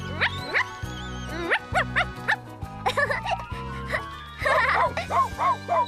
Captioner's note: Dizzy Barking